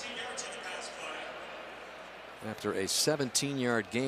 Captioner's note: pa announcement